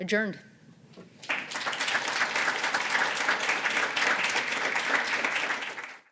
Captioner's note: applause